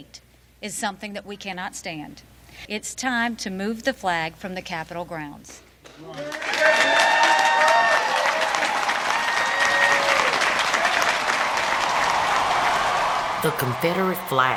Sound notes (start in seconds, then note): 6.0 audience applauding